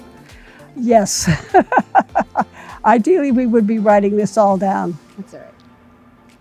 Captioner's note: laughing